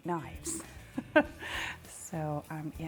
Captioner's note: laughs